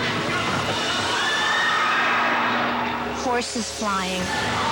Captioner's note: crowd screaming